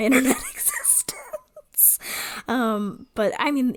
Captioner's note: wheeze laughs